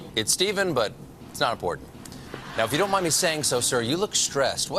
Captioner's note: none